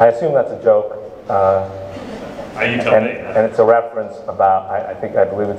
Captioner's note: laughing